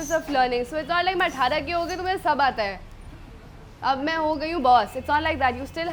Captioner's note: speaks in Hindi